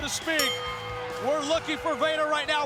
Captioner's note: bell ringing